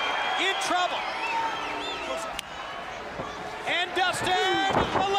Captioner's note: crowd chatter